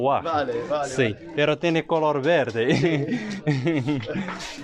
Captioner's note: laughs